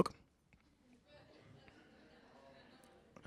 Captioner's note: laughter